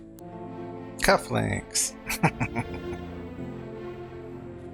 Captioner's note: chuckling